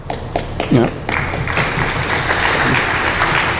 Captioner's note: applause